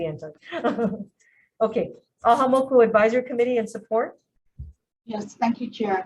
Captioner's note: chuckles